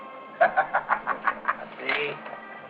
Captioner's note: laughing